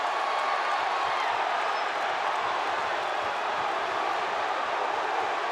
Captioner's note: audience continues cheering